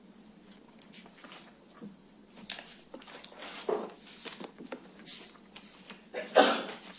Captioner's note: quiet - turning pages